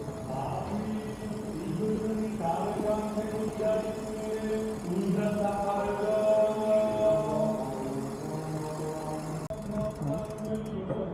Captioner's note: chants